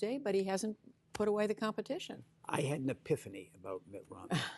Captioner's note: laughter